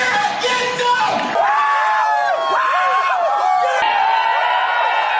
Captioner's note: screaming; crowd cheering